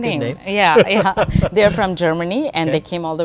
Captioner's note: laughing